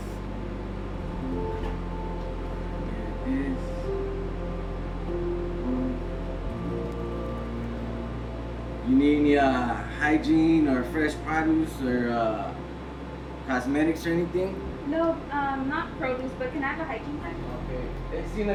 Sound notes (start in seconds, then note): 6.4 typing on keyboard